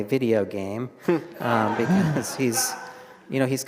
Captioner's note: all laugh